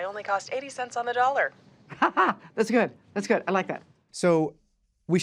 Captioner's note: laughs